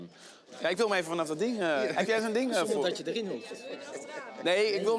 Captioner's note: speaking in foreign language